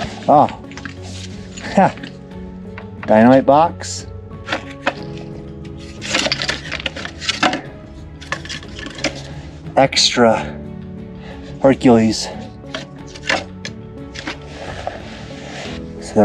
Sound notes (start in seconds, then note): 5.7 wood pieces clattering; 13.4 soft dramatic music